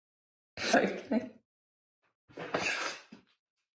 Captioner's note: sniffling